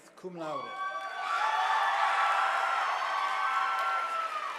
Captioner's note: audience applauding